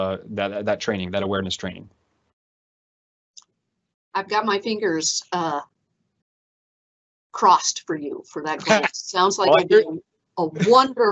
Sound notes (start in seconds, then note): 9.4 laughs